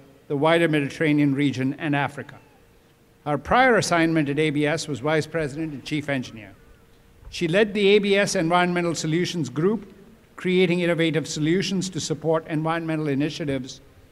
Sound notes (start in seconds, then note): none